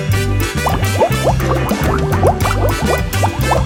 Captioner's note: bubble sounds